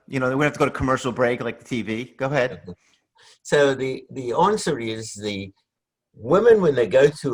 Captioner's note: laughs